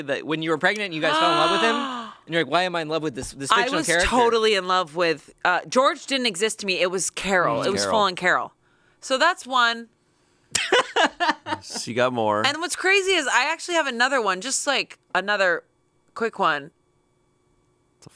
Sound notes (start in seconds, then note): 10.5 laughs